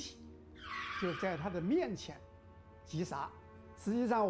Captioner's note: tires screeching